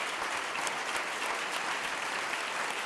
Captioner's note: clapping